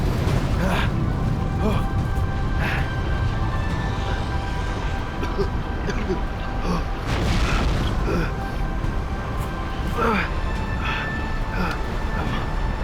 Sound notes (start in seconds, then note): 1.6 grunts/Groans; 5.2 coughing; 8.7 grunts